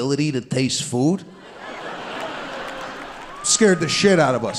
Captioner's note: audience laughing